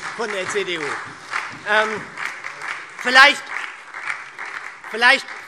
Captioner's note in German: Beifall SPD und DIE LINKE